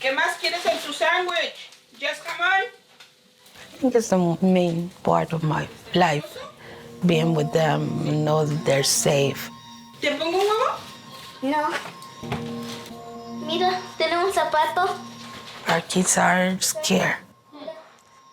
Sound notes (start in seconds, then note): 0.2 speaking in Spanish; 10.2 speaking in Spanish